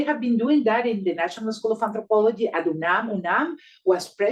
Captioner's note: speaking Spanish